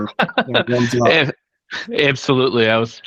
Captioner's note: laughing